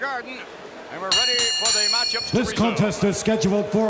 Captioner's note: bell rings